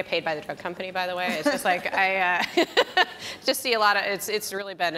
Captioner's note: laughs